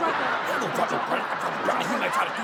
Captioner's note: audience laughs